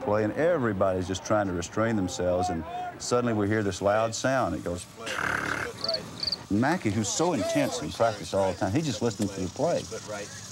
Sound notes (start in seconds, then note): 5.0 trilling